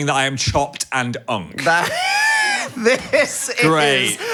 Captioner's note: laughs